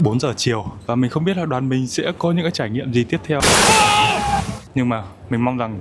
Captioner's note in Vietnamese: la hét